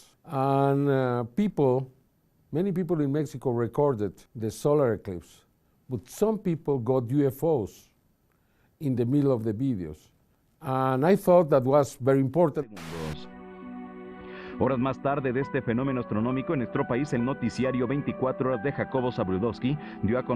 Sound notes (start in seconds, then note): 14.7 in vreemde taal